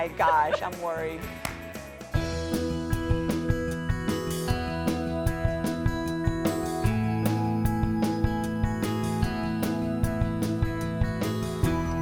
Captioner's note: laughter